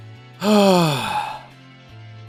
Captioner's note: sigh